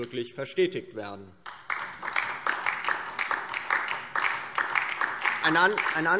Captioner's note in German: Beifall